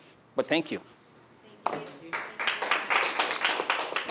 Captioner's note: applause